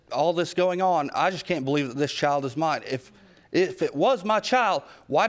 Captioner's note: none